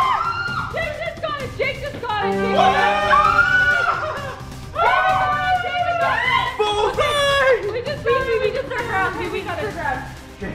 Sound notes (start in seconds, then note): 0.0 screaming; 1.9 victory music; 4.7 screaming